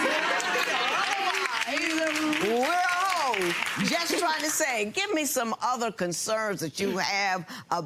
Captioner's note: audience clapping and laughing